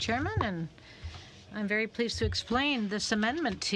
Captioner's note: speaking French